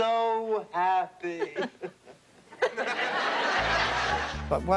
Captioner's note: laughs